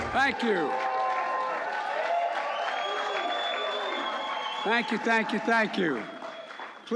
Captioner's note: applause